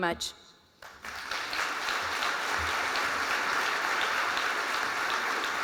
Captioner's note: applause